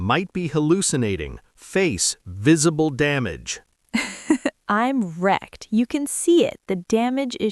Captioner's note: laughs